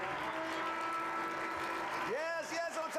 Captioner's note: audience cheering